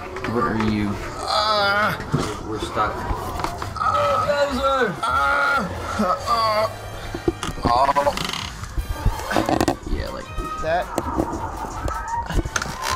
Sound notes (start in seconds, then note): 3.7 yelling; 4.9 more yelling; 6.4 grunt; 7.0 loud creaks and moving